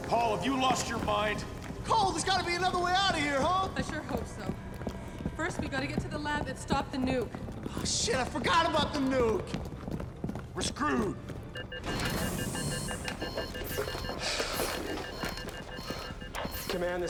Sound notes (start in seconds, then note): 9.9 footsteps tapping; 11.5 alarm buzzing; 11.5 device beeping; 14.1 Ross panting; 14.2 helmet hisses